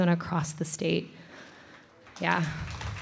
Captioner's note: applause